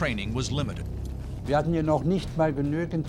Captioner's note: speaking german